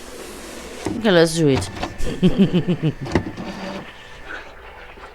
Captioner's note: laughs